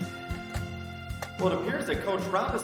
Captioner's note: lock clicking